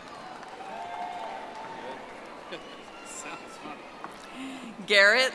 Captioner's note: audience applauding